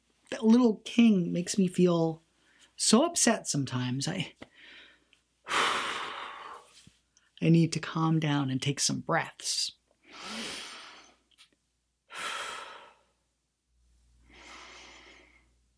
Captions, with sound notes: that little king makes me feel so upset sometimes, I... (deep exhale) I need to calm down and take some breaths. (inhales deeply) (exhales deeply) (inhales deeply)